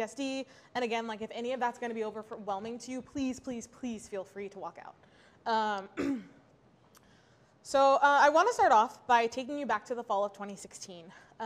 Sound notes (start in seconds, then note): 5.9 clears throat